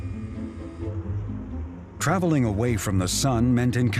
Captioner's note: electric whirring